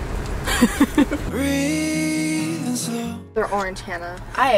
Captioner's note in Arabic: تضحك